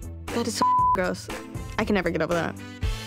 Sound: beep

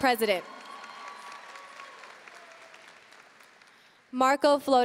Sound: audience cheering and applauding

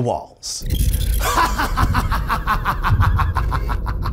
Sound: laughing

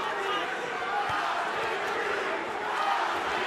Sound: Crowd chanting "Algieri"

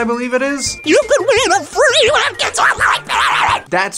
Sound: with copious amounts of distortion

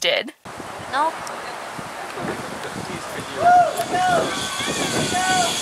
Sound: leaves rustling, birds calling

